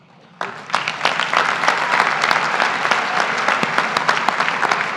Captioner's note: graduates applaud